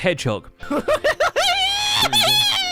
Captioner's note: gleeful noises